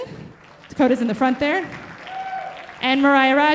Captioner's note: audience applauding